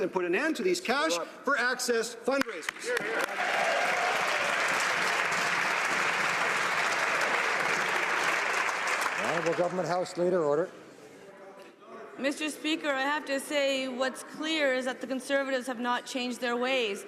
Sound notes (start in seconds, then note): 7.6 some Applause